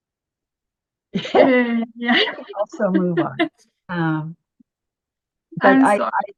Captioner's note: both laughing